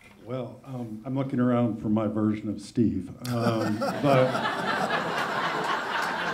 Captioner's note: laughter